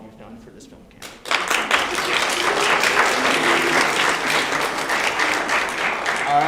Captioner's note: applause